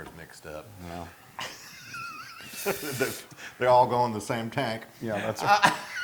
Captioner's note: laugh